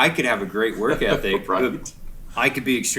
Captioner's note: laughing